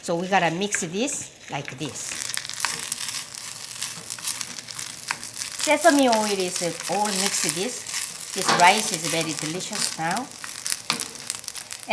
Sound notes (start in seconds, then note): 2.4 food sizzling